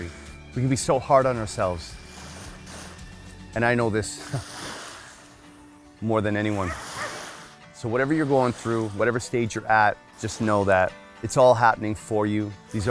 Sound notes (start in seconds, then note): 4.2 chuckles; 6.6 dog barks